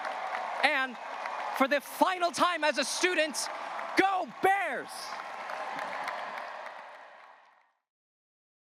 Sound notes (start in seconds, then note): 5.1 graduates cheering and applauding